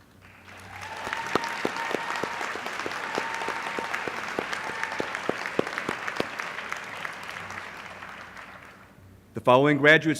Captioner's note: applause